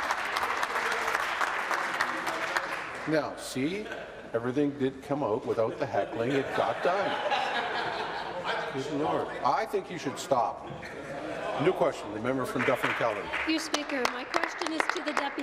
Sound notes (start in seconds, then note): 4.0 applause